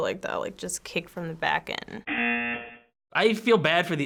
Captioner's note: buzzer